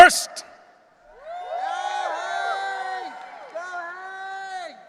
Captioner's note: audience cheering